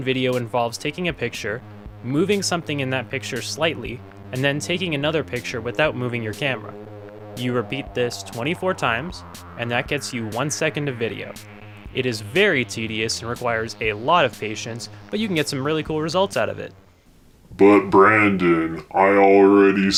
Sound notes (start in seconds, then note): 16.9 deep voice